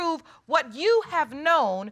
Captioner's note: none